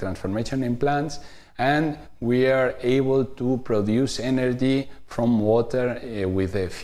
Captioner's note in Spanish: vacilación